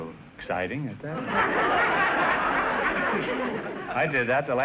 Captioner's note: audience laughter